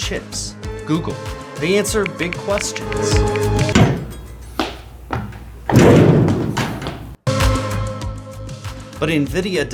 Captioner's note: bangs into locker